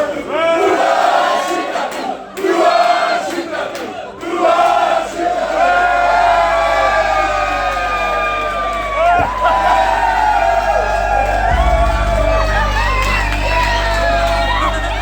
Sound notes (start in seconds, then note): 0.2 chanting; 5.1 cheering